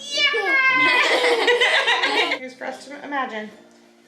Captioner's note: everyone laughs